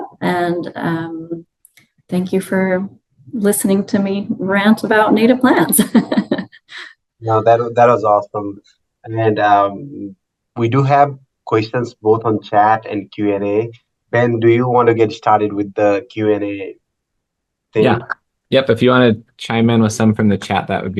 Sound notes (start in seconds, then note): 7.2 laughs